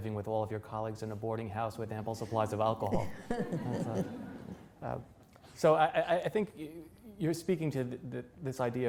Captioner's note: laughter